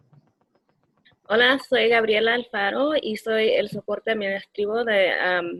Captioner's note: speaking Spanish